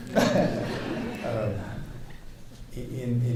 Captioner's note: audience laughing